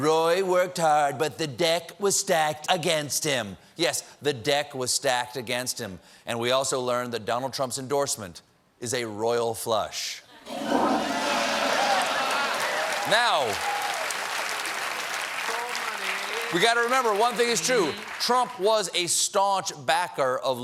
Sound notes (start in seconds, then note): 12.1 applause; 12.1 toilet flushing